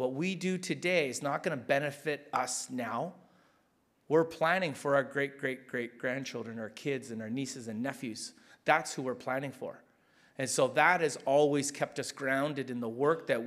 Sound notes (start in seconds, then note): none